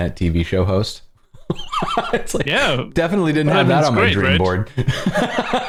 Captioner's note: laughter